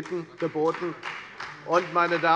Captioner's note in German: Beifall bei der FDP